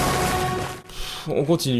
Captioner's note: sigh